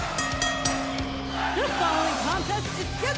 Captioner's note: bell rings